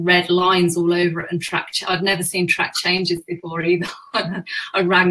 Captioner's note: laughs